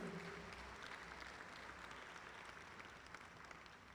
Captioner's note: audience applauding